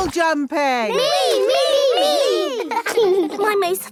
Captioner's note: laughing